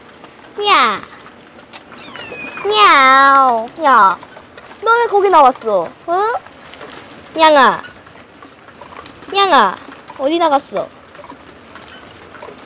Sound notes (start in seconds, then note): 1.9 meow